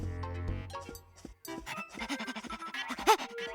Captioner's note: panting